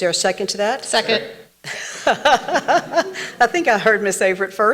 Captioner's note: laughs